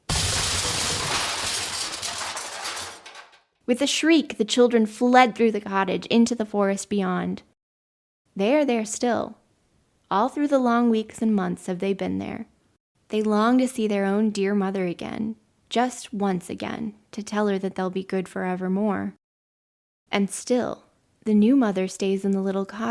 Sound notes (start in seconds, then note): 0.0 sound of wood splintering